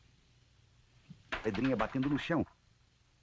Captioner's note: pebble rattling on the floor